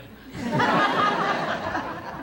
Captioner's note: laughter